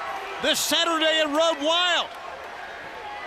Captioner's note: crowd chatter